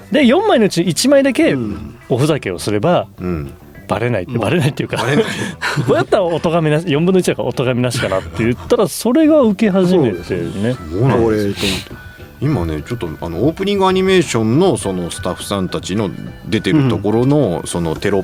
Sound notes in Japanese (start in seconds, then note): 4.9 笑い; 10.6 鼻息